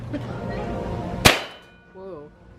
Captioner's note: gun fire